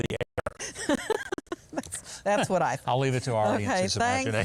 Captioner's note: laughing